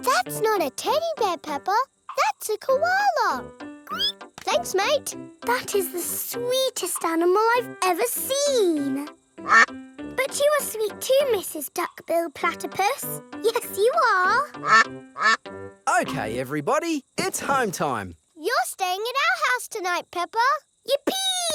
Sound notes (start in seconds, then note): 3.9 squeals; 9.4 quacks; 15.1 quacking